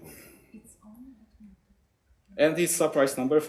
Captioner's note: woman murmuring